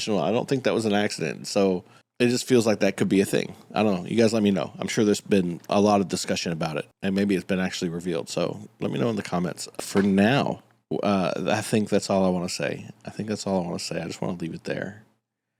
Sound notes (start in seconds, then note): none